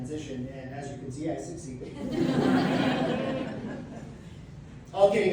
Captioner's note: audience laughs